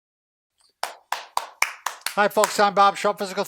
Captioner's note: clapping